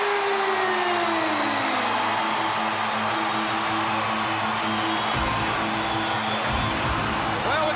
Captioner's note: crowd cheering